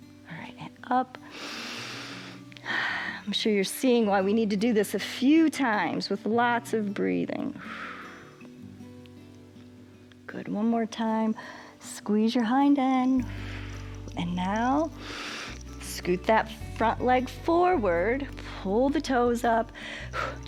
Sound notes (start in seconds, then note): 1.2 inhales and exhales; 7.6 exhales; 13.2 exhales